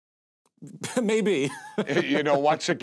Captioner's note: laughs